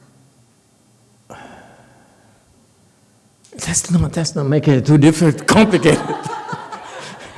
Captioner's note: laughs, audience laughs